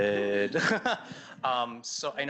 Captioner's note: laughs